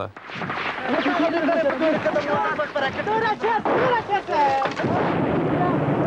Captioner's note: speaking Afghan